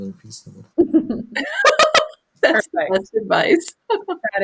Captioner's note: laughs